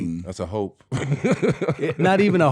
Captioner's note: laughing